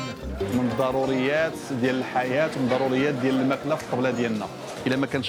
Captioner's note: speaking Arabic